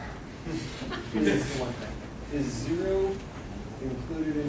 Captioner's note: laughing